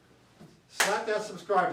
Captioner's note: hands clap